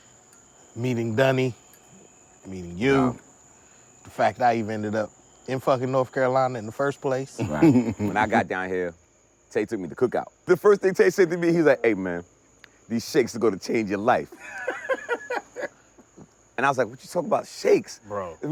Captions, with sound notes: meeting Dunny, meeting you. The fact I even ended up in fucking North Carolina in the first place. - Right, when I got down here, 'Te took me to cookout. The first thing 'Te said to me, he was like, "Hey man, these shakes to go to change your life." (group member laughing) And I was like, what you talking about shakes? - Bro.